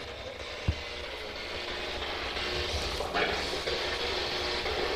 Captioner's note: static buzzing